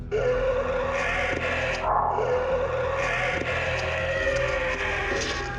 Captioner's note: both roaring; alleged bigfoot roaring